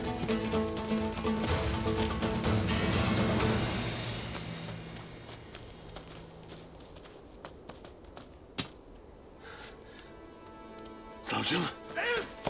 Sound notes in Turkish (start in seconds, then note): 0.0 Müzik - Hareketli; 5.6 Ayak sesi